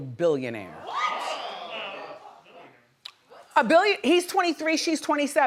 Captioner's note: audience members exclaim in response